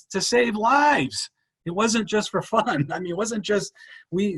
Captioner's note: chuckles